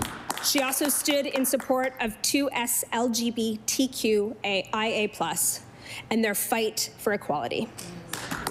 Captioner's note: applause